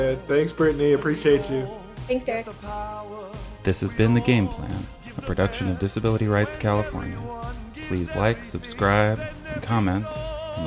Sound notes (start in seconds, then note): 3.5 voiceover